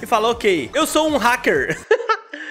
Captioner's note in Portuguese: risos